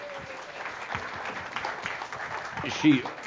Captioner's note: audience applause